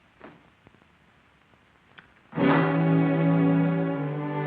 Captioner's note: footsteps going away